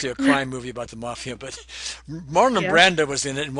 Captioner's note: chuckling